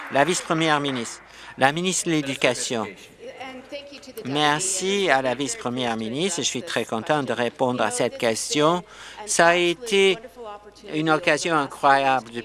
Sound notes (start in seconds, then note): 0.0 applause